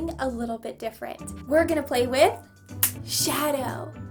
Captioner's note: snap